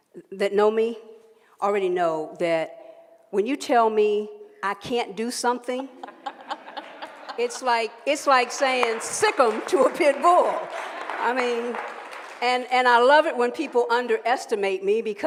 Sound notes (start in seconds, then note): 6.0 laughing; 8.3 applause